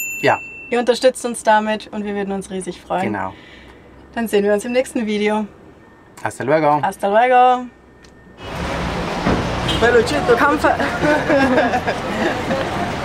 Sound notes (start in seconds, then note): 10.0 passer-by in Spanish; 10.7 laughter